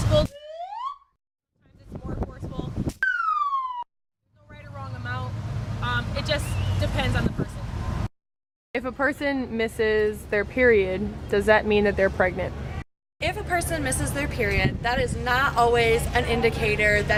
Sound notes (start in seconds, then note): 0.4 slide whistle sound effect; 3.0 slide whistle sound effect